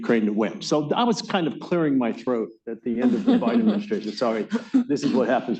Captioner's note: laughter